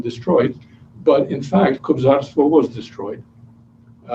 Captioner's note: non-english speech